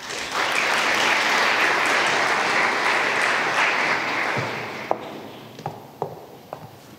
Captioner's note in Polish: oklaski